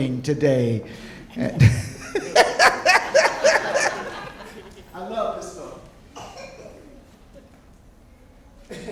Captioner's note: laughing